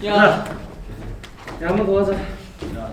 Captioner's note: tapping